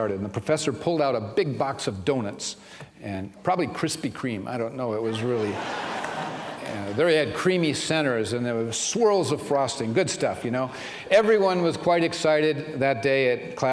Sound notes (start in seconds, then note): 5.1 laughter